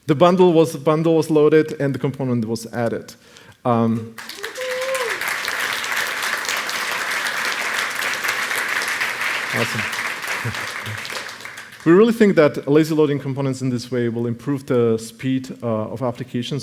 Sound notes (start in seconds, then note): 4.2 cheering and applause